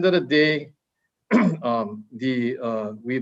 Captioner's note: clears throat